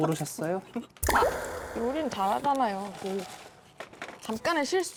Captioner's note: sound effect: hit a sore spot; sound effect: trying to recover